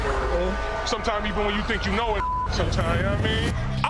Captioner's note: beep